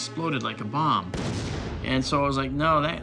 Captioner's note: explosion booms